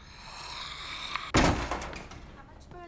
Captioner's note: clatters